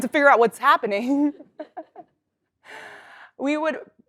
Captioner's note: laugh